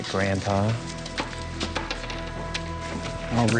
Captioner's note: coins clanging